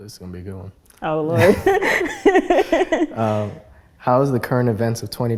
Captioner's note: both laugh